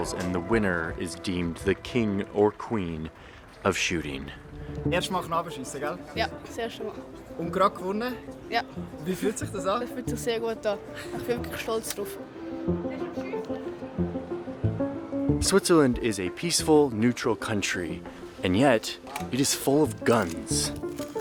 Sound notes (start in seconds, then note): 4.7 speaking foreign language; 13.2 ambient music